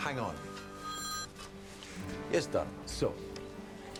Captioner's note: phone ringing